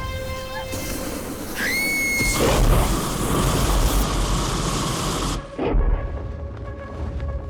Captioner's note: dragon roars; Guine screams